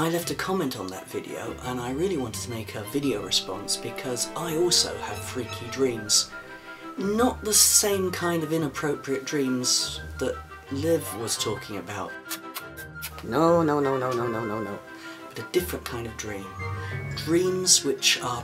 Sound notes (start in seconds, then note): 12.1 kissing sounds